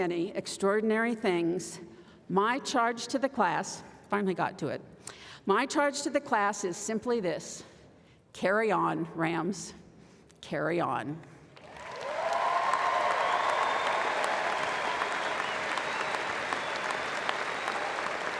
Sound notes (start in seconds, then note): 13.0 applause